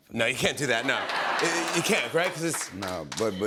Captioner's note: laughter